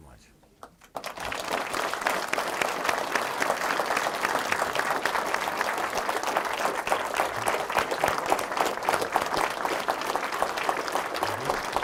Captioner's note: applause